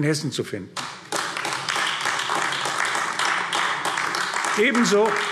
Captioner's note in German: Beifall AfD